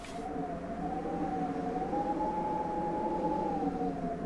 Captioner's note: wind whistling